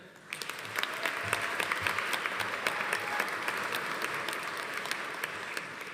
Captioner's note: audience applauding; audience cheering